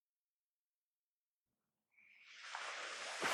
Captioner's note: crickets suddenly go silent